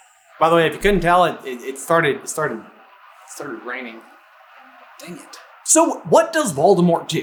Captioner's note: SUPER loud rain